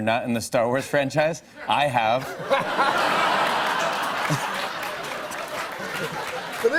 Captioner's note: laughter and applause